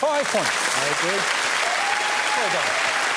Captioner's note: cheers and applause